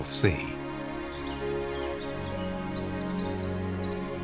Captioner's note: birds singing